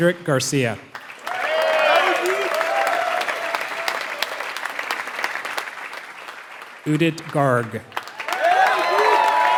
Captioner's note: applause